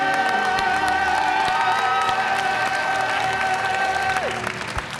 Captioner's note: audience cheering and applauding